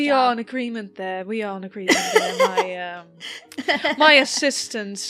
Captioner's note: Alyssa laughs